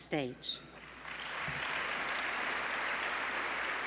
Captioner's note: applause